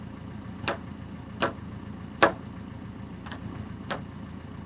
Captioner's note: mallet pounding